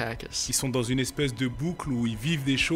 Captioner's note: speaking french